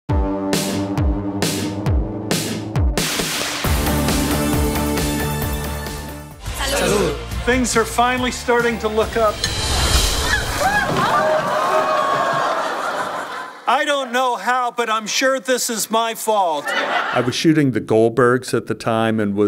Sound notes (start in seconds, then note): 0.2 upbeat electronic music; 10.0 group gasping and shouting